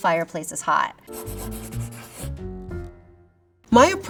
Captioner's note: graphic scratching; upbeat music